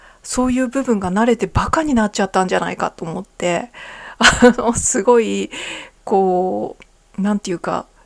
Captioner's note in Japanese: 笑い